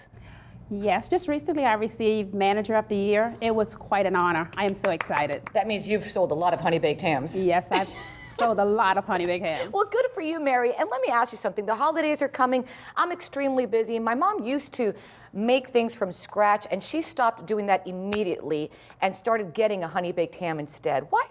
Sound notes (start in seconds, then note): 4.2 clapping